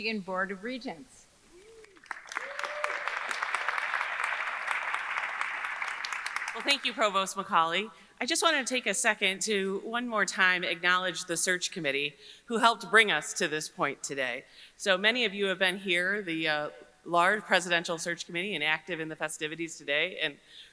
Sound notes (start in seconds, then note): 1.7 audience cheering; 1.8 audience applauding